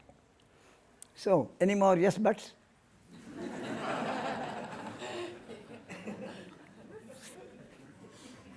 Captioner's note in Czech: smích